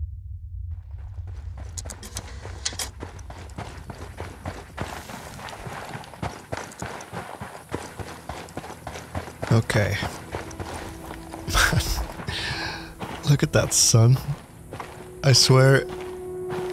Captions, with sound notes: Okay. (laughs) Man.. look at that sun. I swear,